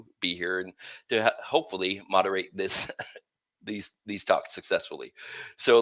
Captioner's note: laughter